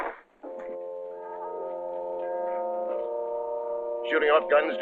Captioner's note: church bells ringing